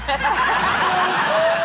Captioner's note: laughter